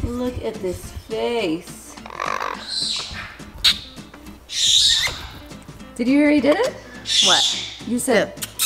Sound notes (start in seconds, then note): 2.0 parrot growls; 2.9 lips smacking